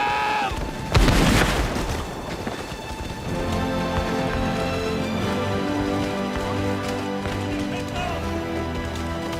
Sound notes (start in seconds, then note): 0.6 guns fire; 3.8 dramatic music